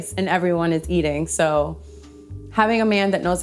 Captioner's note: none